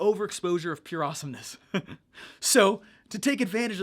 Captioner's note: laughs